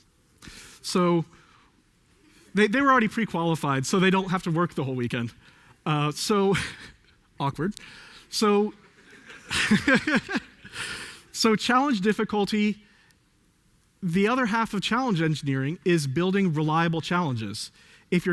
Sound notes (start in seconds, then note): 9.0 laughs